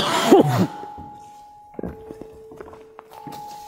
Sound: coughs and gags

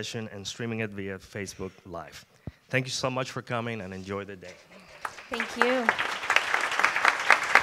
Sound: applause

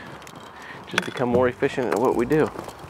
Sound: equipment rattling

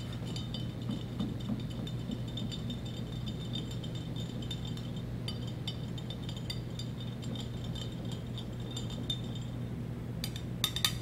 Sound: stirring noises

